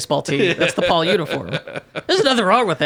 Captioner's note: laughing